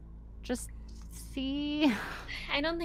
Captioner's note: chuckles